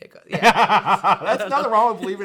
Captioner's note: laughing